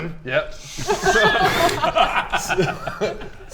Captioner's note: encouraging laugh